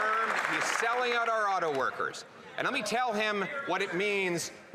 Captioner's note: applause